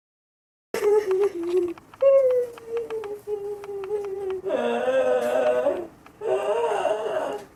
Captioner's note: sobbing hysterically